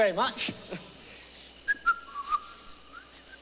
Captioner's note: whistling